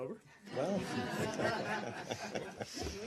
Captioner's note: laughter